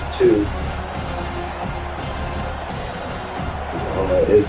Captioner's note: crowd Noises